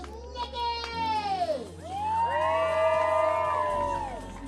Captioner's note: cheering